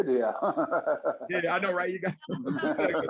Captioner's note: laughs